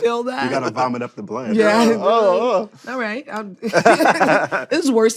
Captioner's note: laughter